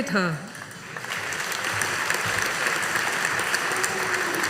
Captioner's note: audience applauding